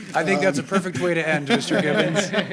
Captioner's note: laughter